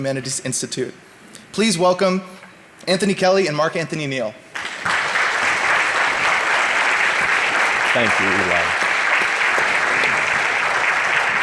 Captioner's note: audience applauding